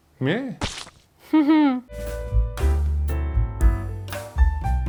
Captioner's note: chuckling